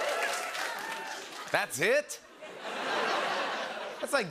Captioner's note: cheers and applause; laughter